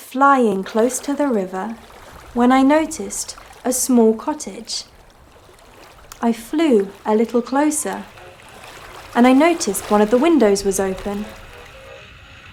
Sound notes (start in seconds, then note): 0.0 leaves crackling; 1.0 water running